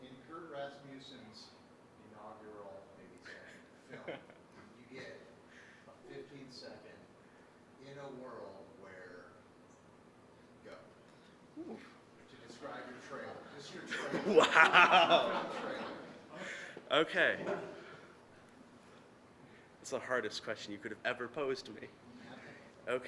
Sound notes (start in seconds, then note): 13.8 audience laughing; 13.8 laughing